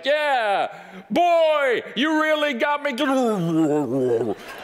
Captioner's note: grumbled voice